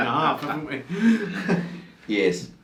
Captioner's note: laughs